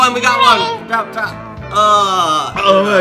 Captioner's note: squeals